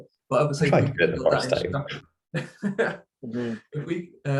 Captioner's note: chuckles